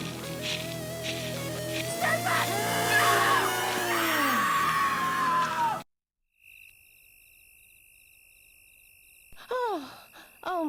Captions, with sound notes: - Stand back! (screams) No! - Oh!